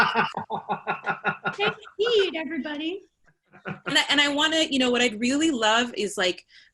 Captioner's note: laughter